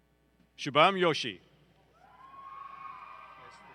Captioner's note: applause